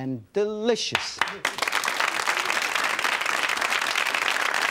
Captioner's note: audience applause